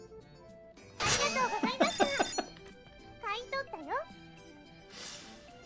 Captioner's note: bursts out laughing